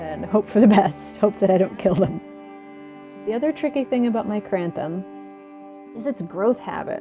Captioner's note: nervous laugh